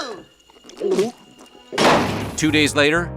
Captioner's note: gulps